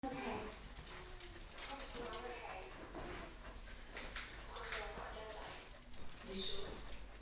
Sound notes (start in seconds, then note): 0.7 keys jingling; 1.5 dog claws tapping